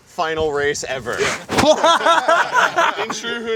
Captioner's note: everyone laughing